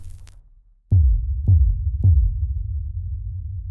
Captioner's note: logo thuds; arcade game crunches